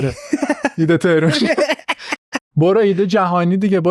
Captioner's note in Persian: خنده